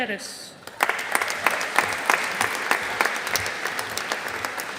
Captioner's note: audience applauding